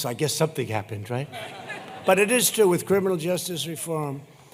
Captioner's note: laughter